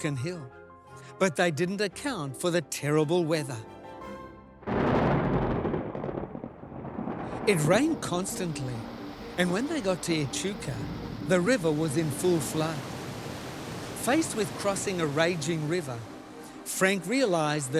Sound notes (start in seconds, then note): 5.6 thunder rumbling; 13.9 river splashing